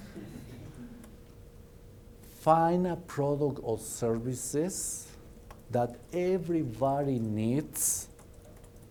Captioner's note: laughter